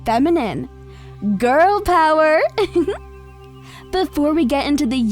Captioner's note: chuckles